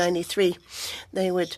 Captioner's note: speaking French